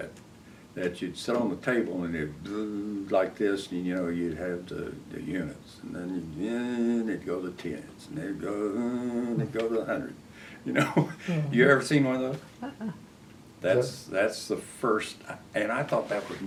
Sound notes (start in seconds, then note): 2.1 buzzing sound; 10.7 laughs